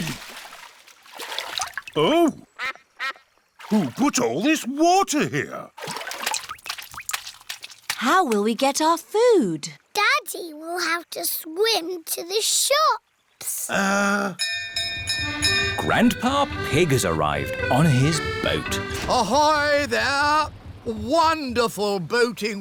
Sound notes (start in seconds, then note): 2.9 quacks; 14.4 bell rings